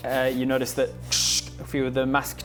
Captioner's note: tchssssk